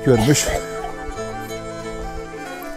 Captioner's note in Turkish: Öksürük sesi